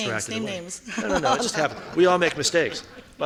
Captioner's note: laughing